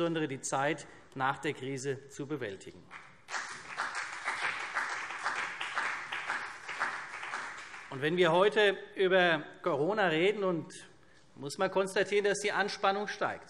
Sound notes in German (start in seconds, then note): 2.9 Beifall CDU und vereinzelt BÜNDNIS 90/DIE GRÜNEN